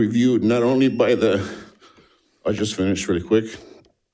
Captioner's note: buzzer ringing